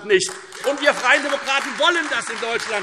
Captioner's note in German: Beifall Freie Demokraten und AfD